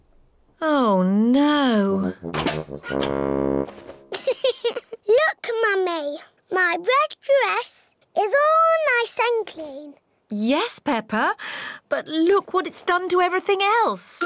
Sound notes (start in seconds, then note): 4.1 giggles